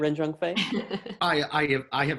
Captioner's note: laughs